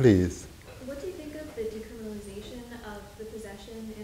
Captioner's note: woman's Voice